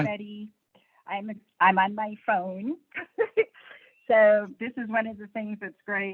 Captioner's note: laughs